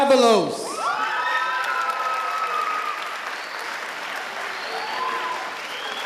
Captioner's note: audience applauding and cheering